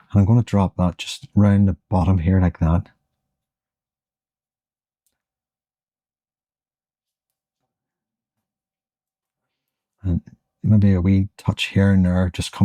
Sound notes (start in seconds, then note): 6.4 silence